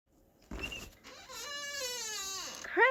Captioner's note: door creaks open